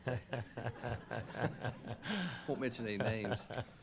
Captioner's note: laughter